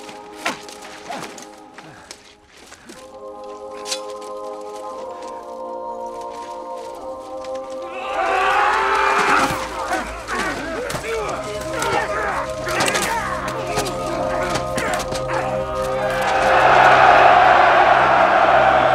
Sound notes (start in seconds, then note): 7.6 men yelling; 10.7 all grunting; 15.2 cheering